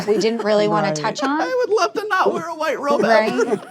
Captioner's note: laughs